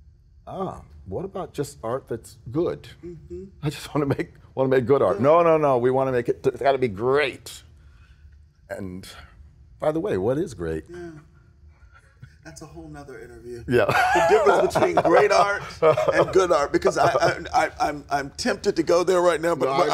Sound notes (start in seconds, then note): 13.8 laughing